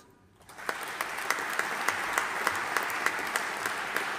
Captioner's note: audience applauding